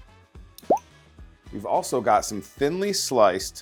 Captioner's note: item pops